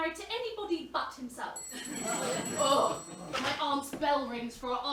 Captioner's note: bell rings